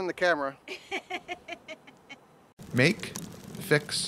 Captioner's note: woman laughs; male Voice